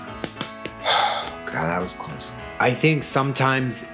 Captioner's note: sigh